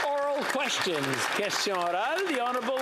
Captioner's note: some Applause